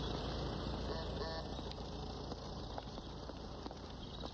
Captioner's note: car horn honking